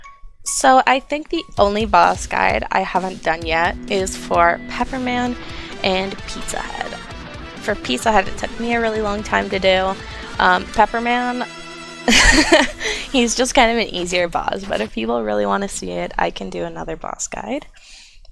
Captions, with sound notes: So, I think the only boss guides I haven't done yet are for Pepperman and Pizzahead. For Pizzahead it took me a really long time to do. Um, Pepperman- (laughs) He's just kinda an easier boss, but if people really wanna see it, I can do another boss guide.